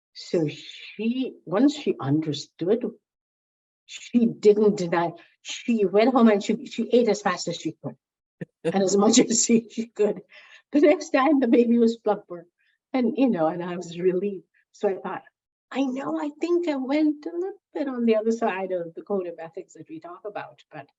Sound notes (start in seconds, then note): 8.7 laughs